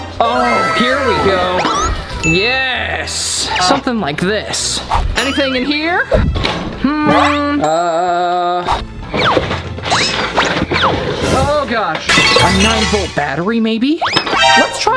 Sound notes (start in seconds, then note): 11.3 dramatic sound